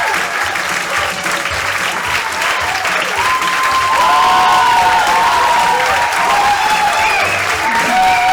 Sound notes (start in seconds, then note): 3.5 cheering continues